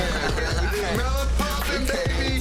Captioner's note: person laughing; people speaking indistinct